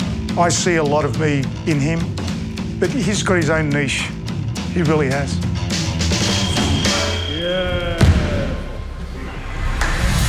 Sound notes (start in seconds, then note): 6.2 buzzer chimes